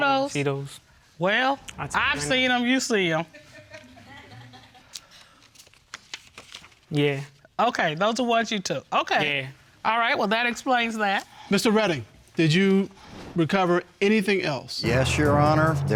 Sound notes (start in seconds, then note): 3.4 audience laughs